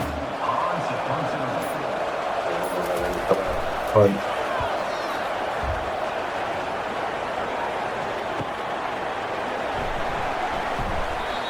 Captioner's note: crowd Noises